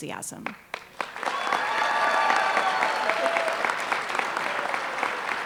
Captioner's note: applause